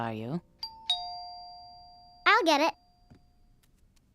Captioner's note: doorbell ringing